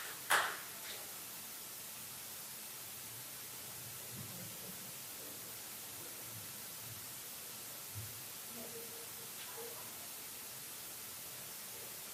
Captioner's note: applause